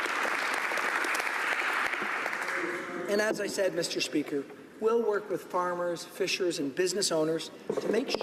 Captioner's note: applause